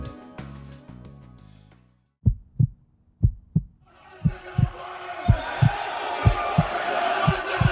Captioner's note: heart beating